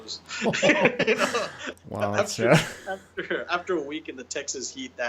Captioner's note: both chuckling